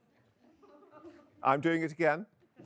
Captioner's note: audience members chuckle